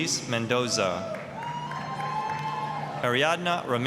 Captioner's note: applause, cheering